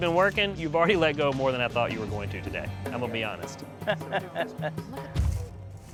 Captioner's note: laugh